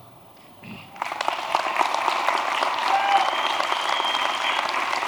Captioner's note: applause